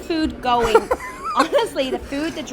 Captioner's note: laughing